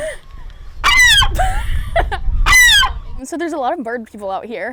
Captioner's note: seagull squawk